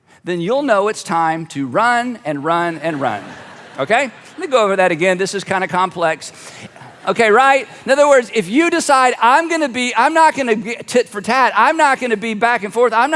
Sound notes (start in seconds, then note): 2.5 audience laughs